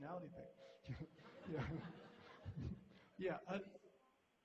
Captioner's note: laughter